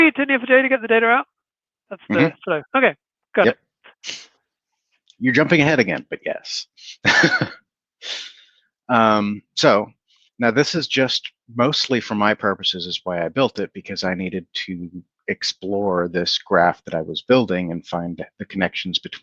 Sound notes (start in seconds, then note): 8.0 chuckles